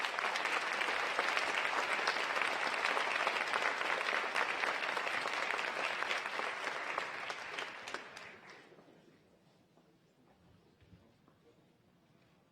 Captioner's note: applause